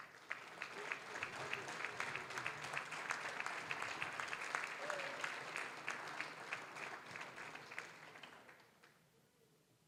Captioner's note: applause